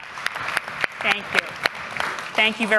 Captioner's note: applause